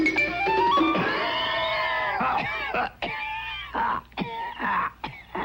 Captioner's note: man coughing fiercely